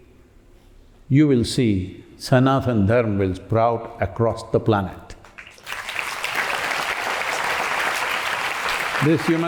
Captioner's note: applause